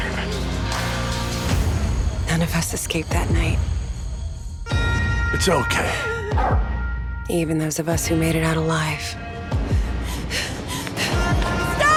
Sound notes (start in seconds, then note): 9.6 woman breathing heavily